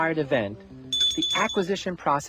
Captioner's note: ringing